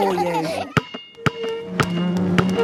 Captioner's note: chair scraping